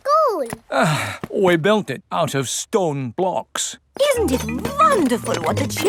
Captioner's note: sighs